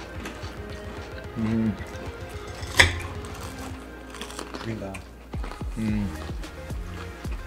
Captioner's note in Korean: 바삭 바삭 튀김 씹는소리